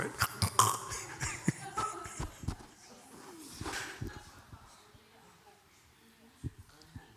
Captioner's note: laughter